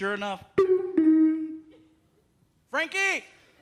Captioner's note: imitates doorbell ringing